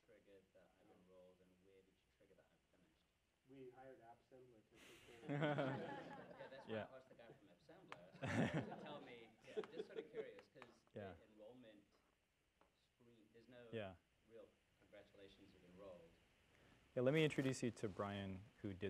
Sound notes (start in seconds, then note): 7.9 laugh